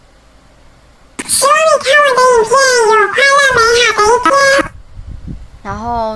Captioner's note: Lolita tone